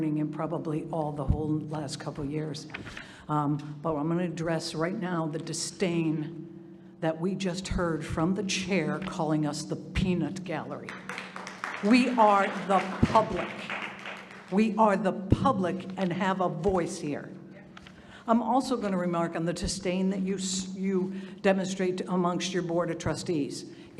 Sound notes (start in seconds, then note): 10.9 audience applauding